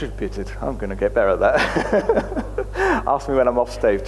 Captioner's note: chuckling